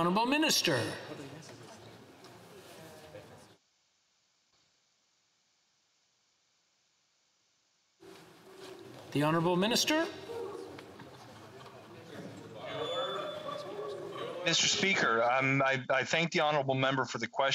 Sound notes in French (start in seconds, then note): 6.0 voix de l'interprète